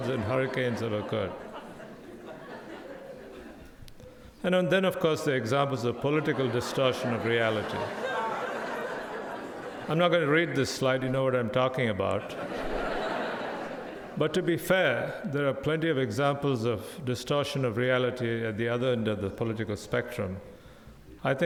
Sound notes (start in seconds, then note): 2.8 audience laughs; 7.6 audience laughing; 12.1 audience laughing